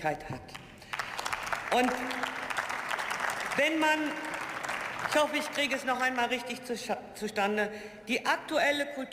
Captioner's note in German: Beifall